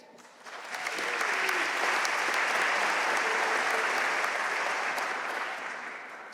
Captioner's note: audience cheering and applauding